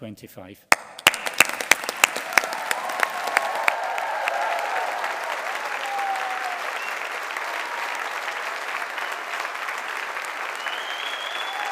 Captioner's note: applause